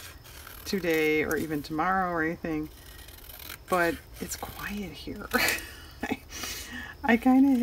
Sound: laughs

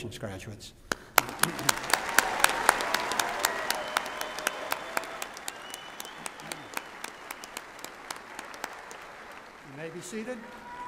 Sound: applause

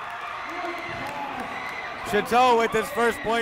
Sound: crowd cheering

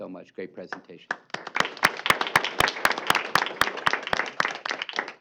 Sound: applause

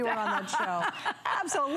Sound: laughter

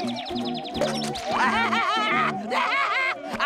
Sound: laughing

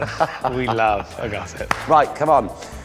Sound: laughs; claps

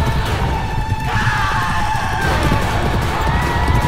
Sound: horses galloping

